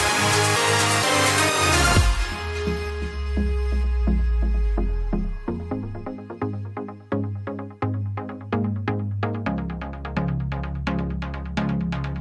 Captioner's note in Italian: Applauso